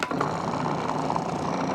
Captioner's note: whirring